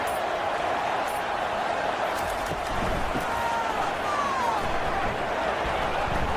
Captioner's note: crowd Noises